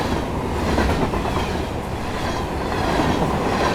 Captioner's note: train passing